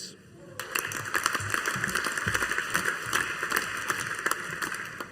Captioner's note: audience applauding